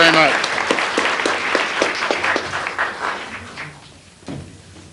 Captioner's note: applause